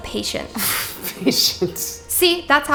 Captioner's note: scoffing